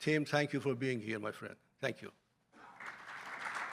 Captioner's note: applause